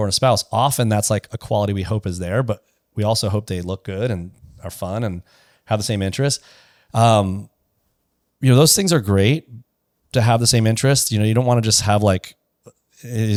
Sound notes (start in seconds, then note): none